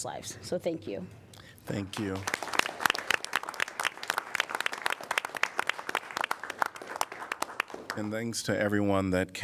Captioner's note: applause